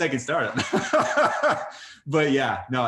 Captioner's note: laughs